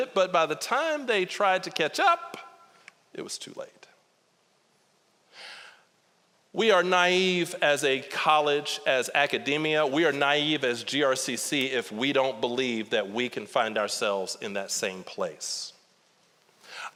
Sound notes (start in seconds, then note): none